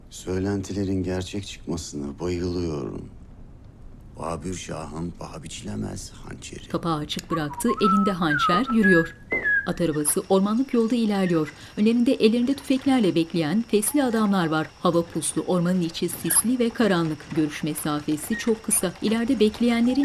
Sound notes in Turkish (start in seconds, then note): 7.5 Islıkla şarkı sesi